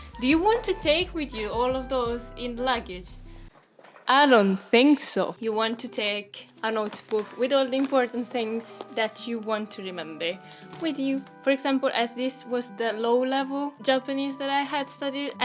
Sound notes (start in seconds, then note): 4.0 with mic echo